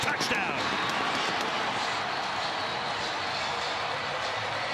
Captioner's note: cheering